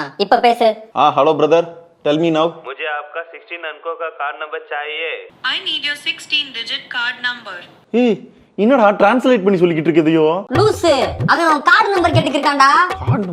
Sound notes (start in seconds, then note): 2.7 other person conversing in Hindi